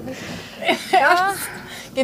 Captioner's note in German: Lachen